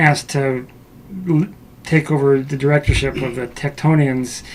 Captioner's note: laughing